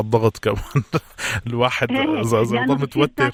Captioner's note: laugh